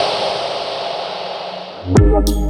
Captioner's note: air whooshing